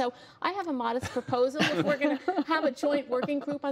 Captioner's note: laughter